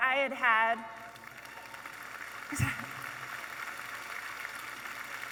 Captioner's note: audience applauding